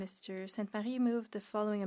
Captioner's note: speaking French